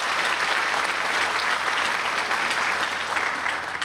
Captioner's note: applause